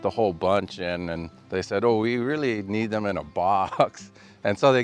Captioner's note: laughing